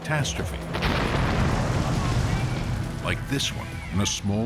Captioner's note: explosion roars